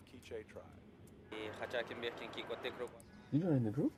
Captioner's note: tribe member speaking in foreign language